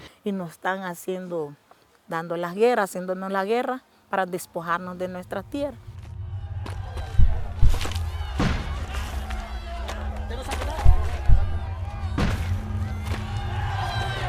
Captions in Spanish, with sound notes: Y nos están haciendo, dándonos la guerra, haciéndonos la guerra para despojarnos de nuestras tierras. [Disparos]